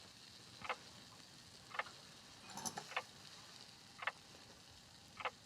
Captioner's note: clock continues ticking